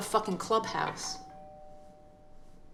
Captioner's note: doorbell rings